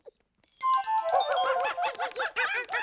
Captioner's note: hooting